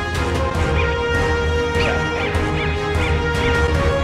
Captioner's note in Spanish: sonidos del detector